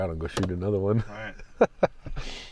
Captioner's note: laughing